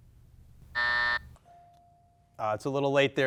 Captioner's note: buzzer beeps